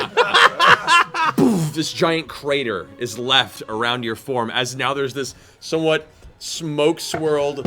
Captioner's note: laughter; boom